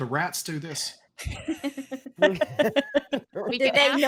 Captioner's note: all laughing